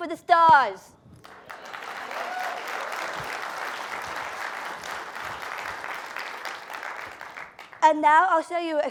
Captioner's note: applause